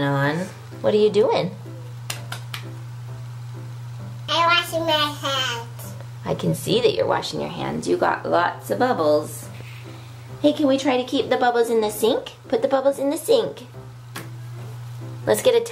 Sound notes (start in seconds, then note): 2.0 clapping